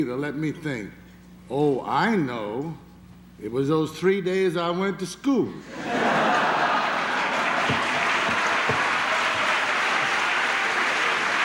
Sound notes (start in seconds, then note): 5.6 laughter; 6.6 applause